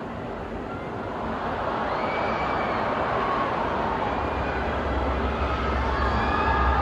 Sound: audience cheers and screams

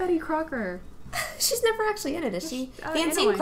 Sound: laughs

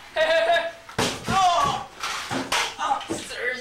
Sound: laughing; groans

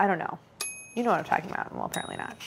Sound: bell dings

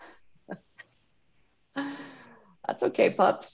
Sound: laughs

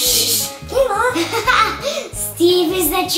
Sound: laughing

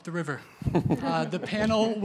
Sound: laughter

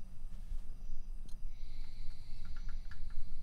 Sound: woman snoring softly

